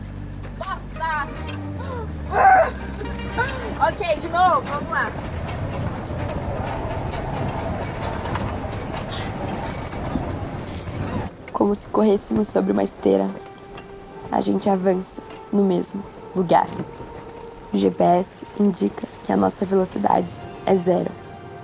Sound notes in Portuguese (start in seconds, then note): 2.3 grunhe; 5.3 Ruídos metálicos